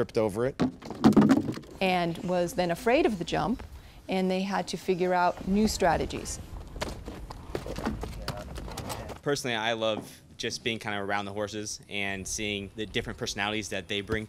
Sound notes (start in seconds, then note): 4.8 horse walking